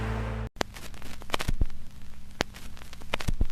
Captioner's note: static